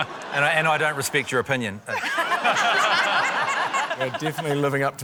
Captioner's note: laughter